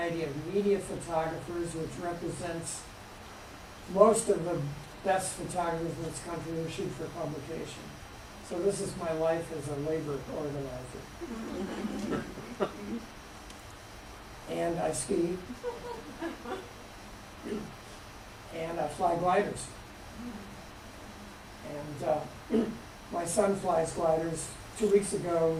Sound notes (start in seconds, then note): 11.3 laughter; 15.5 laughter